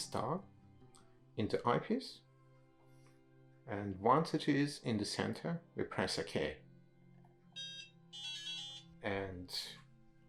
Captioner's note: DSC emits a series of melodic beeps